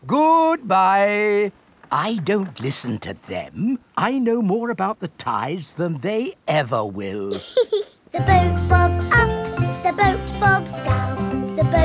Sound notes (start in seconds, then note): 7.3 giggles